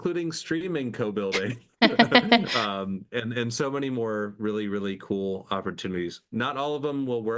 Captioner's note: laughing